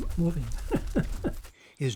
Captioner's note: laughter